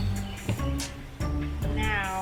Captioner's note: birds chirping; mischievous music